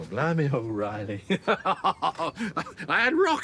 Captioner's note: he laughs